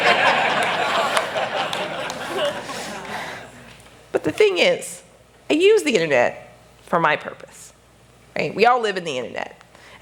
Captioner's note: laughter